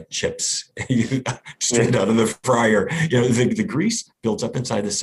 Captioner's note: laughs